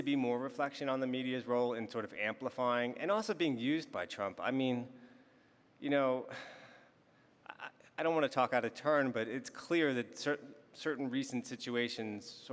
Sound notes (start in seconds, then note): 6.9 sighs